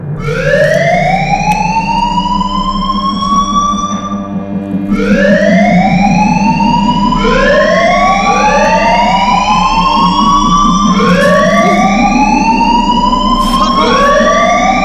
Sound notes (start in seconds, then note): 0.1 siren goes off; 5.2 sirens going off; 14.0 overlapping sirens